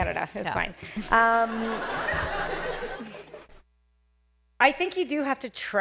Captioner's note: laughter